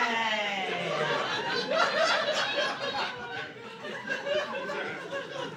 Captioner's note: laughter